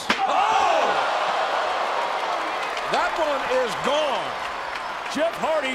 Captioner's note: applause